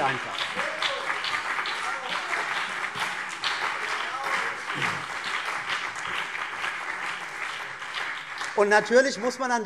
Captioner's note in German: Heiterkeit und Beifall CDU und BÜNDNIS 90/DIE GRÜNEN